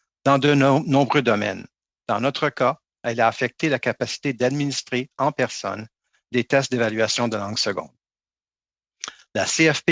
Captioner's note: speaking French